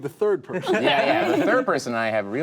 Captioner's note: group laughing